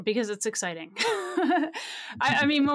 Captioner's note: laughs